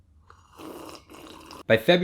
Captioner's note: slurps